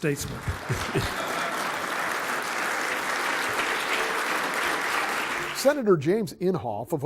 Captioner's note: applause